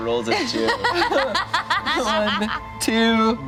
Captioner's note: laughs